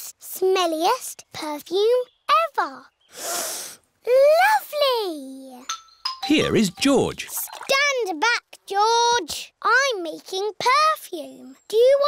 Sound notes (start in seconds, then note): 3.1 sniffs